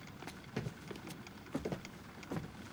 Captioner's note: rhythmic clicking